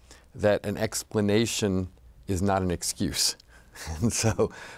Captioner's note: laughs